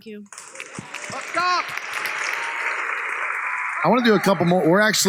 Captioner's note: applause